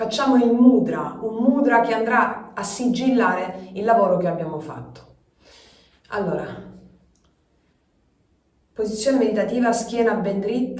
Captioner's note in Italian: sbuffare